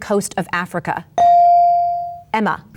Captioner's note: bell dings